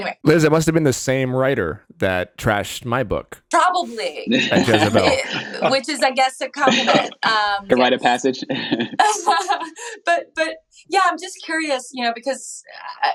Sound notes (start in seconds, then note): 7.7 laughing